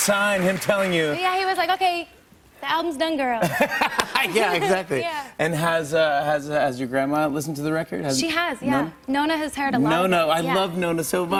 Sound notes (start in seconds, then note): 3.4 laughter